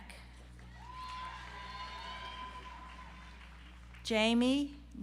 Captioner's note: audience applauds